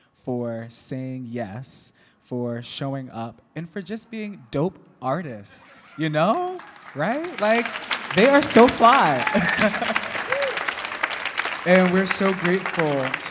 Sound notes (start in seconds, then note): 6.7 audience clapping; 9.8 laughs